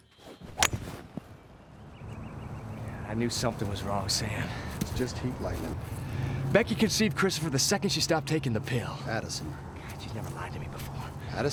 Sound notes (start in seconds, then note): 0.6 golf ball clanks; 0.6 air whooshing